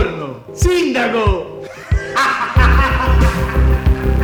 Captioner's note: laughter